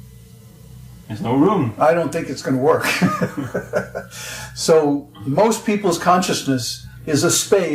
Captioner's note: laughs